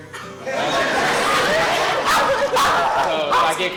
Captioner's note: laughter